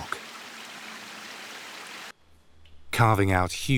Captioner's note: water sloshes